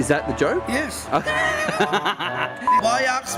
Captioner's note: laughter